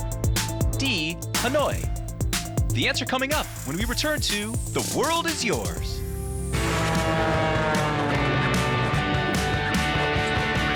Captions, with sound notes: D. Hanoi. The answer coming up when we return To The World is Yours. (airplane engine) (upbeat guitar)